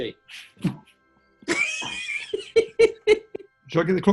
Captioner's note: giggling